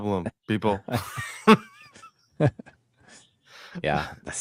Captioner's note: laughing